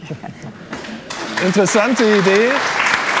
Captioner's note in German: Applaus